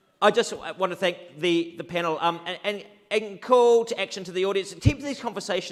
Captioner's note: none